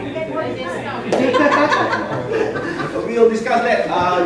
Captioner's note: laughs